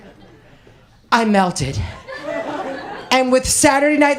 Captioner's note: imitating melissa